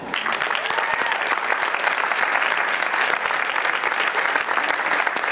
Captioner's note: applause